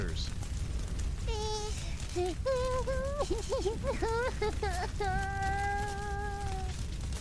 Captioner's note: sobbing